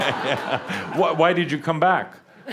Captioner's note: laughter